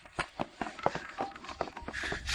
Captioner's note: phone ringing